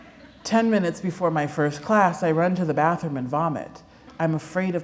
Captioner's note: laughter